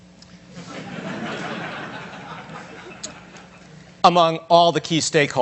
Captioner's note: audience laughs